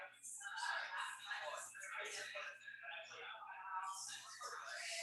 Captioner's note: people chattering indistinctly